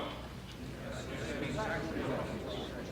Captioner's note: people muttering